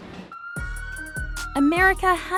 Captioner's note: siren blares